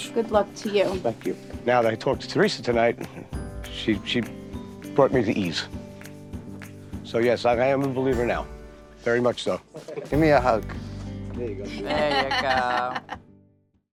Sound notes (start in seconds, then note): 11.7 laughs